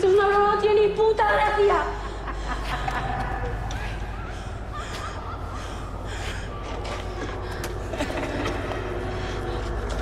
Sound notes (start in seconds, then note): 1.8 laughing